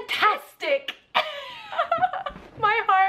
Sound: both laughing

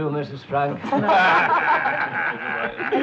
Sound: group laughing

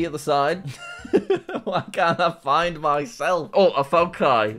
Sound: laughs

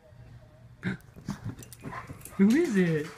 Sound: gasps

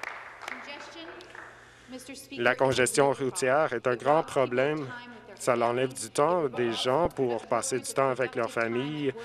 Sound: some Applause

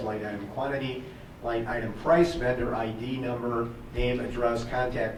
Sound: none

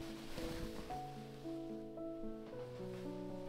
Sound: fabric rustle

